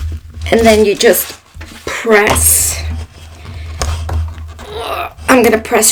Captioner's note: sounds of exertion